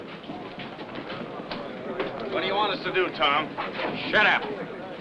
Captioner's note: chattering